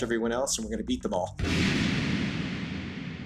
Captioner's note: soundbite of archived recording